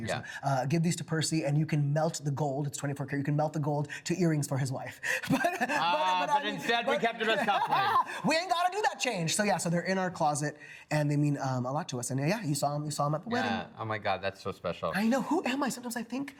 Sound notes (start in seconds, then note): 5.2 laughs